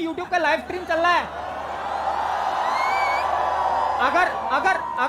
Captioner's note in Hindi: चियरिंग